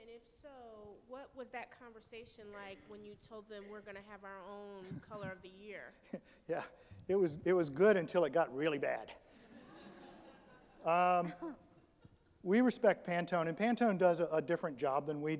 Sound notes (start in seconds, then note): 9.4 audience laughs